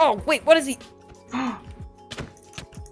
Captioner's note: gasps; violence noises